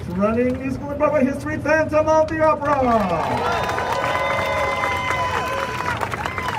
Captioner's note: crowd cheering